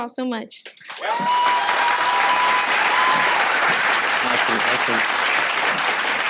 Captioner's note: audience applauding